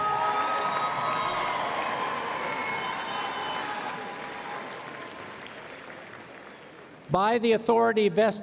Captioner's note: cheers and Applause